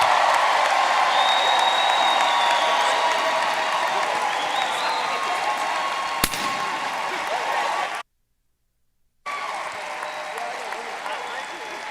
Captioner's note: cheers and applause